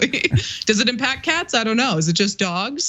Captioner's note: laugh